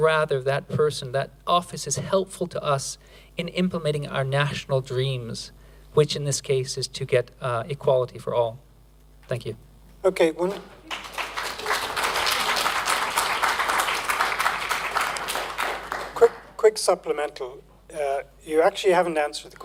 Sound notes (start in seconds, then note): 10.8 applause